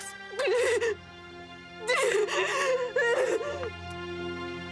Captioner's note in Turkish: Ağlıyor